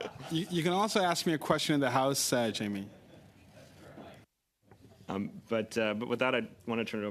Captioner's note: laughter